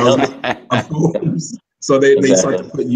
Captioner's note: laughter